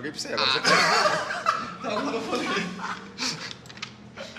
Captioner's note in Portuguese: Risadas